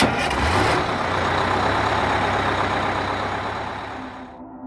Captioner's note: bus engine starting